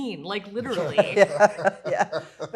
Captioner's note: laughs